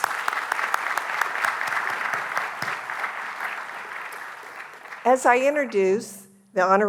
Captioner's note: applause